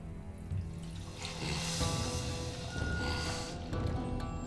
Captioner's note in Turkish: Nefes sesi